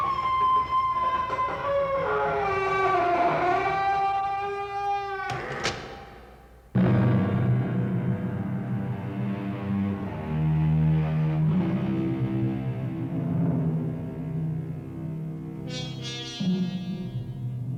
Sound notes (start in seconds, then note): 0.1 woman screams; 2.1 man screaming; 4.4 door closes; 6.5 dramatic music plays